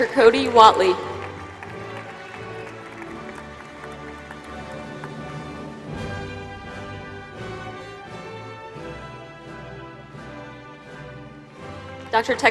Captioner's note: applause